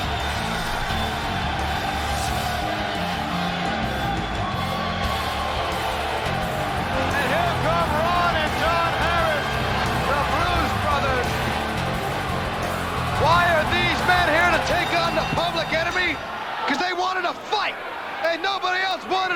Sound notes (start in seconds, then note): 7.9 crowd cheering